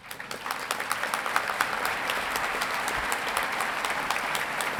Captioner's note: audience clapping